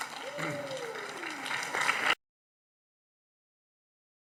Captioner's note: audience applauding